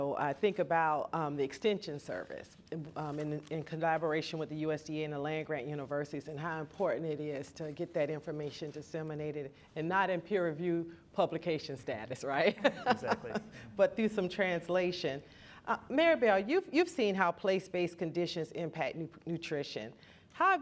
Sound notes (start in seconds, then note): 12.5 laughs